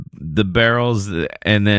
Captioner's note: uh